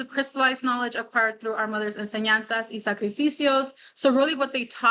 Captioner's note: non-english speech